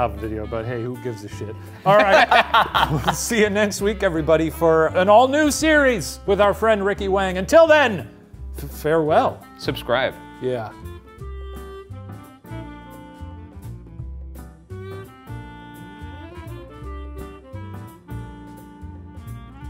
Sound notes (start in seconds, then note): 3.7 laughs; 13.6 relaxed music